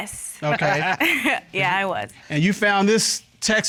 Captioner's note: chuckles